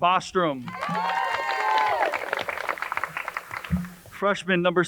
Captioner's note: crowd cheers and applauds